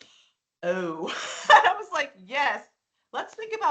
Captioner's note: laughing